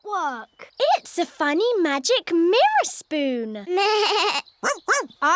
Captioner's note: bleats